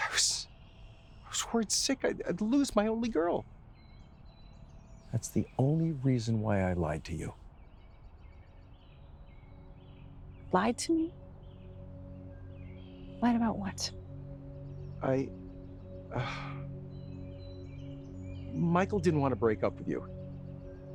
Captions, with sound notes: I was worried sick I'd lose my only girl. That's the only reason why I lied to you. (slow music) - Lied to me? Lied about what? - I... (sighs) Michael didn't want to break up with you.